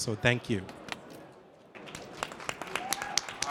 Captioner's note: applause